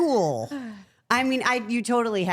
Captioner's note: Liv sighs